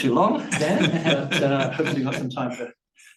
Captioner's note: audience chuckling